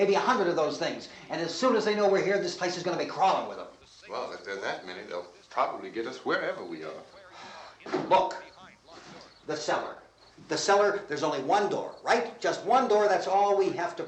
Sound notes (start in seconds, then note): 7.2 sighs